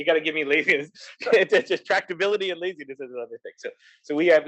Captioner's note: laugh